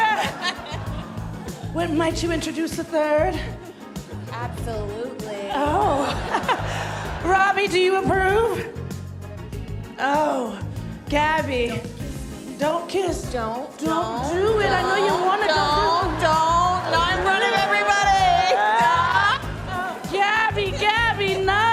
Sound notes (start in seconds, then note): 1.9 cheers and applause; 5.8 laughter